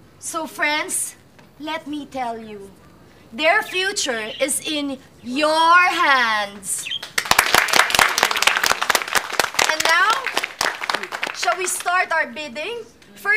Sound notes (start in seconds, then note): 7.0 applauding